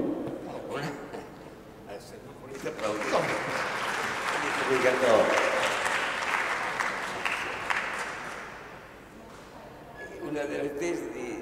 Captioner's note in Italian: Applauso